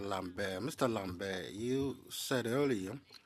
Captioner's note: speaking French